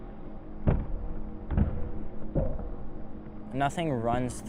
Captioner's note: muffled skateboard thud